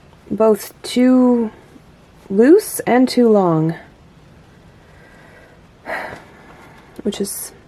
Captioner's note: frustrated sigh